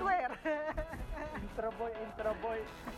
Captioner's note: laughs